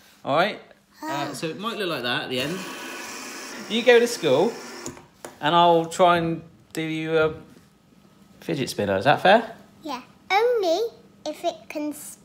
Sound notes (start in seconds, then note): 0.7 sighs; 2.4 spinner whirring